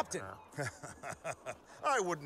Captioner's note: magellan chuckles